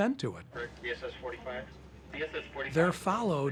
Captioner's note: navigators chattering